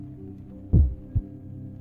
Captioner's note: heartbeat